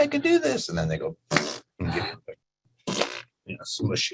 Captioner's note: blowing air